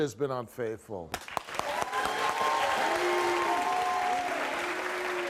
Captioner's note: audience claps and cheers